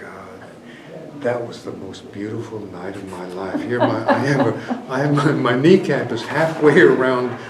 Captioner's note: laughter